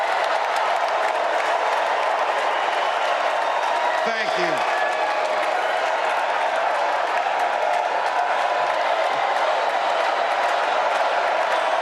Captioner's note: cheers and applause